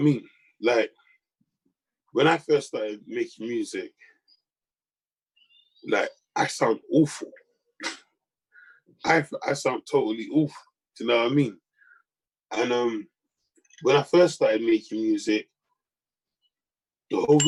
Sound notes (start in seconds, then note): 7.8 chuckles